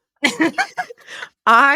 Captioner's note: both laughing